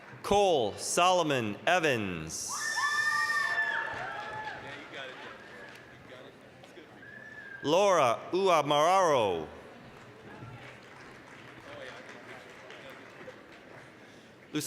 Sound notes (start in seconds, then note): 2.7 applause, cheering; 9.9 applause